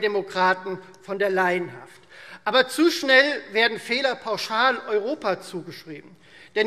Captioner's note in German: none